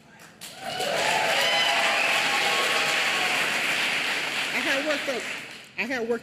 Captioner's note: applause